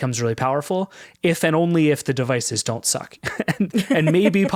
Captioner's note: chuckles